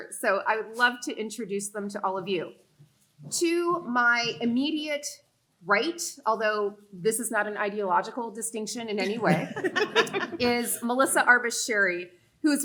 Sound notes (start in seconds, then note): 9.0 panelists laughing